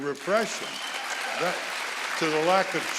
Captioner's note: audience applauding